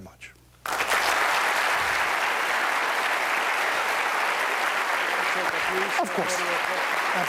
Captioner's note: applause